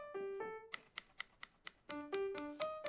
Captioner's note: rhythmic typing